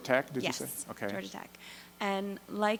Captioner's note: voiceover